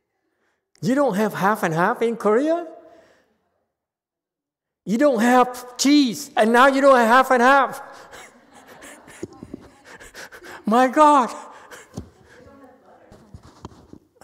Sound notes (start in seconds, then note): 7.9 laughs, audience laughs